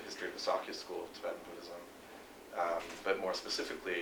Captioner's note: non-english speech